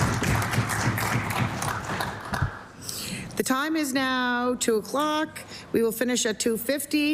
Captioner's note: applause